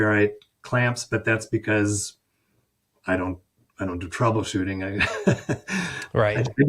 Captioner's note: chuckles